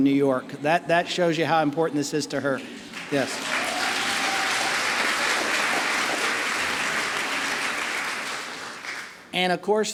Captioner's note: applause